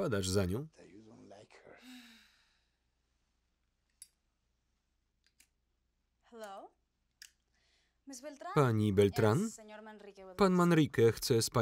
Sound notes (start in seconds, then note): 1.7 sighing